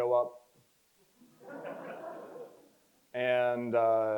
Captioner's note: crowd chuckles